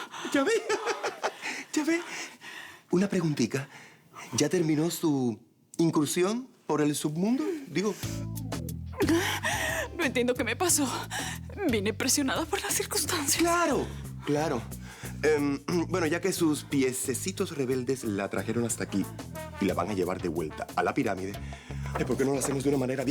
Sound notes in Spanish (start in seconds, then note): 0.2 Risas